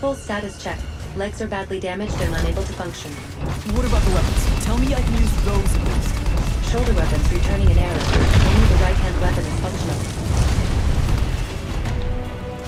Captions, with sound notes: - Full status check. Legs are badly damaged. They're unable to function. - What about the weapons, tell me I can use... (guns firing) - Shoulder weapons returning now. (guns firing)